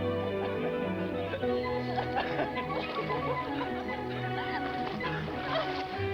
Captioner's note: Nath and Tibby giggling